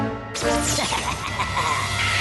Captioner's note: laughs maniacally